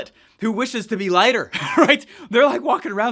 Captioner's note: laughs